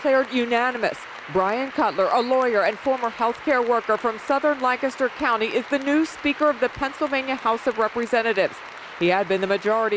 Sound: applause

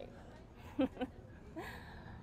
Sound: laughs

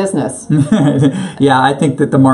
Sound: laughs

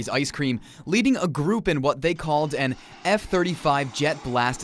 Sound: jet engine sound

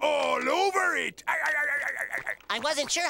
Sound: laughing

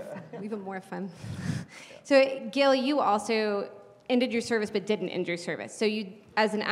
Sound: laugh

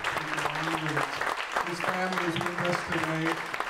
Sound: applause

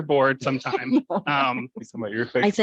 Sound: laughs

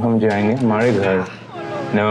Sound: crashes

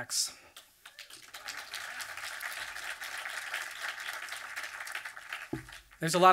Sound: audience applause

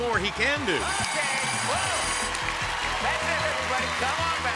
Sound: alarm blaring

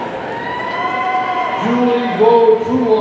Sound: audience cheering

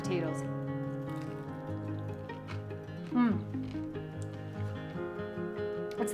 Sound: gentle music; potato crackling

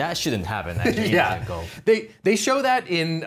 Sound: laughing

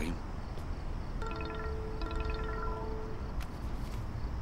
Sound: phone rings

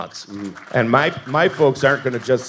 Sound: audience applauding

